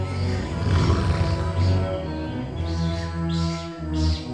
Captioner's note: alien monster growls